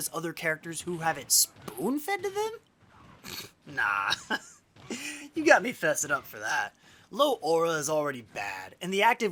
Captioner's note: laughs